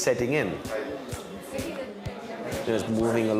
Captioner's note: speaking in foreign language